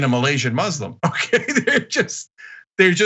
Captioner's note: laugh